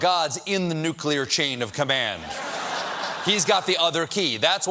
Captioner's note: laughter